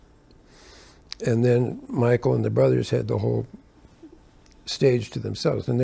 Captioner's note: none